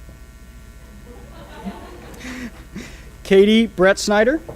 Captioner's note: audience laughs